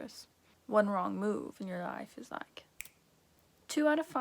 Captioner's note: snap